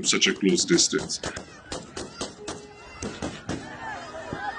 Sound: gunfire blaring; crowd shouting

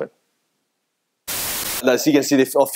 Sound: television static crackling

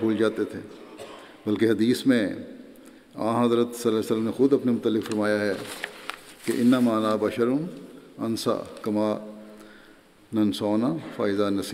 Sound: Arabic

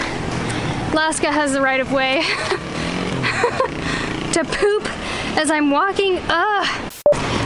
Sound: laughs

